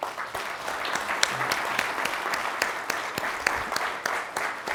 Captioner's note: crowd applauds